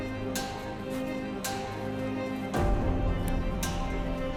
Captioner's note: footsteps pattering